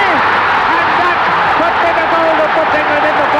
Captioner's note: crowd roaring